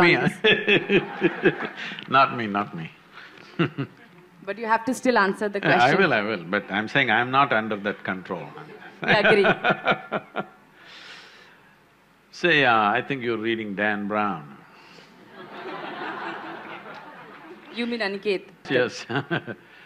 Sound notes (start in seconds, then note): 0.1 laughter; 2.9 laugh; 8.3 laughs; 15.2 laughter